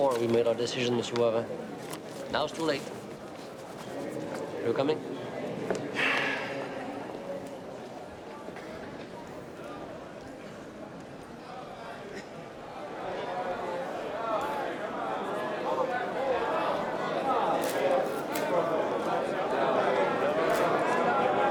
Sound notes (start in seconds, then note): 5.9 sighs; 12.6 people chatting; 17.6 camera shutters clicking